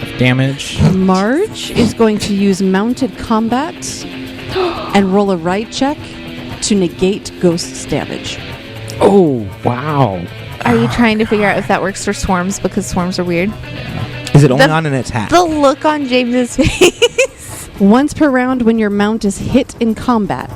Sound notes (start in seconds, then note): 16.6 laughs